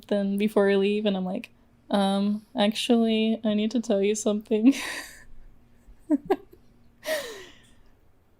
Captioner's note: laughs